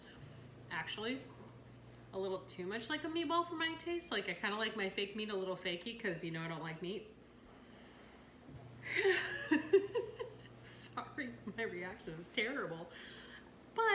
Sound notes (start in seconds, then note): 8.9 laughs